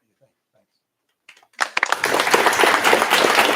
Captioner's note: applause